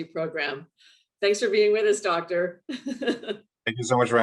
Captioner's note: laughs